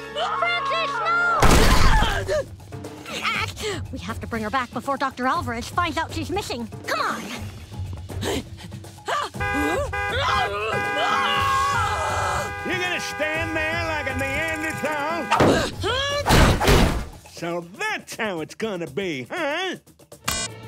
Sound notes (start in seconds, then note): 8.1 gasping; 9.4 car horn honking; 10.9 screams